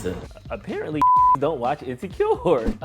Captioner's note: beep